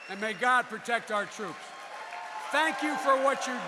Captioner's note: applause